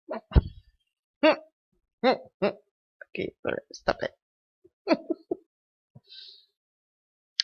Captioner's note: chuckling